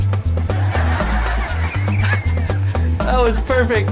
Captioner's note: audience laughing